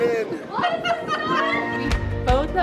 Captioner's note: children exclaiming